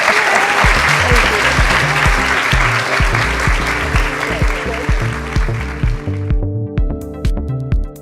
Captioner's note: applauds